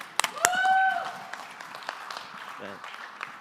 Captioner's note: applause